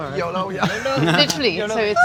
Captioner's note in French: rires